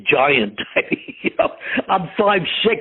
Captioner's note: laughing